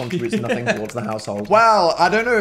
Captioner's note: Phil laughs